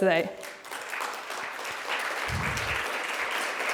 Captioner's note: people clapping